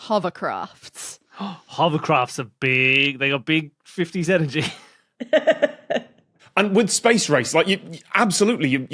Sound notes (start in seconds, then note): 4.8 cracks up; 5.2 giggles